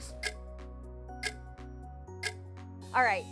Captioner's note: clock ticking